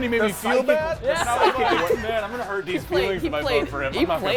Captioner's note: laughter